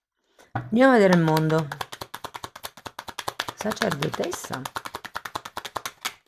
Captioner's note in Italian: Applauso